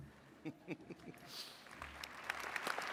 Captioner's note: chuckles; attendees clapping